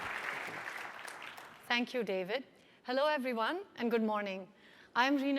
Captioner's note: applause